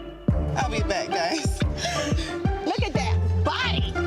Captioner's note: tense hip-hop music; person laughs